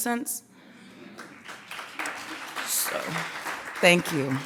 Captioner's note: clapping